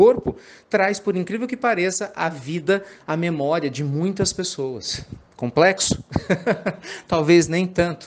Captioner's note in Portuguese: risadas